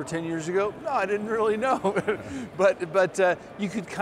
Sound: laughs

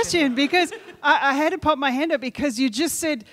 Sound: woman laughing

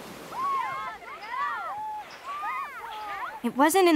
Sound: girls cheering

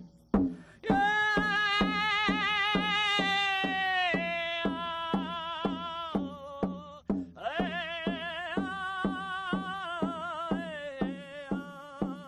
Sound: drum beating; chanting

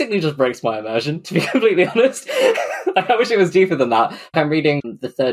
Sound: laughs

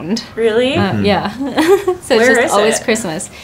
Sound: laughs

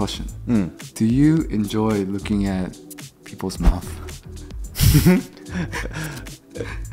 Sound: chuckles

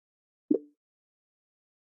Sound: bloop

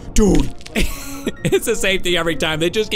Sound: laughs

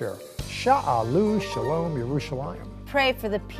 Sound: speaking in Hebrew

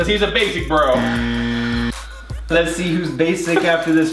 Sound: buzzing loudly; brothers laugh loudly

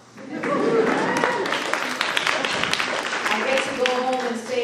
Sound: audience applauding

